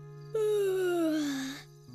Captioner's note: yawn